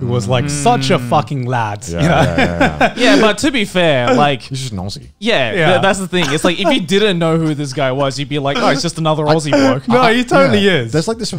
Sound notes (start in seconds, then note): 1.8 laughs